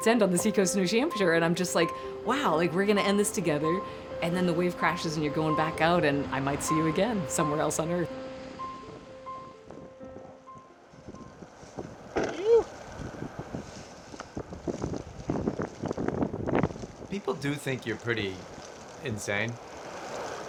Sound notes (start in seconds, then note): 9.1 piano music fades out; 13.7 wind gusting